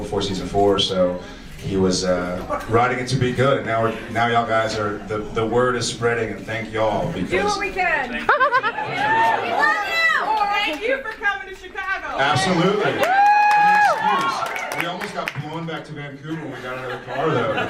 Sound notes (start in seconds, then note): 12.2 audience cheers